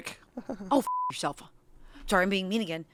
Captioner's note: beep